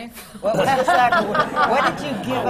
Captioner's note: laughter